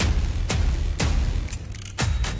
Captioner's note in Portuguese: arma engatilha